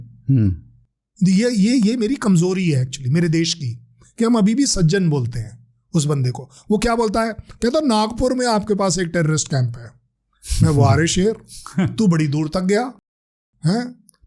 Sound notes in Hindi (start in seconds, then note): 10.4 नाक से की जाने वाली आवाज़